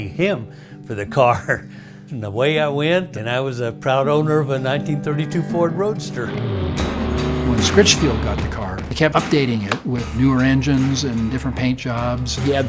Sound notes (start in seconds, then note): 1.1 laughs; 6.2 car engine revs; 9.6 pat